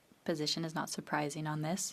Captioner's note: speaking French